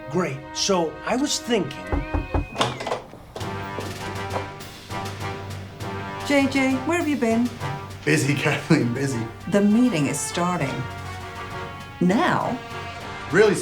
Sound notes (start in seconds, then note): 1.9 knocking; 3.8 villainous music